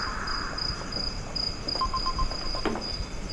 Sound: mobile phone ringing

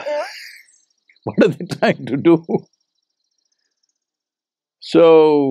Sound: laughs

